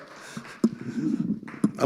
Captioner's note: chuckling; audience applauding; mic creaking